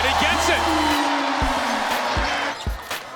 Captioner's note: cheering